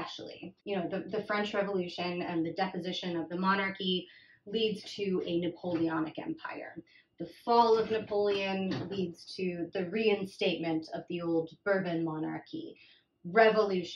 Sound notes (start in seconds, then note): none